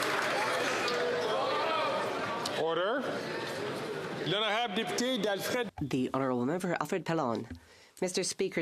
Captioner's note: some Applause